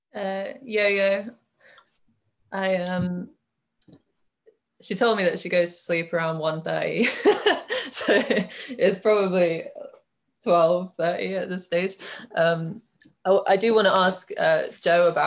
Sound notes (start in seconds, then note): 7.0 laughs